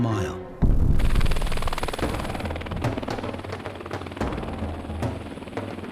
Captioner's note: helicopter flying